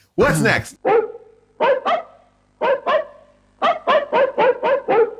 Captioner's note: dogs barking